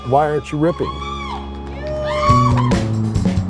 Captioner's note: cheering